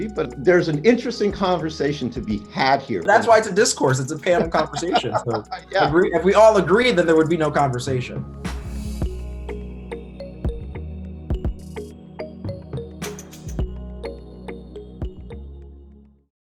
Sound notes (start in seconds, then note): 4.1 laughs